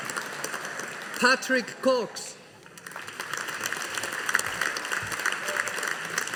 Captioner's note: audience applauding